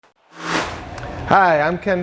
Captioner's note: sound Effects